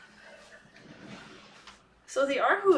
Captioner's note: silence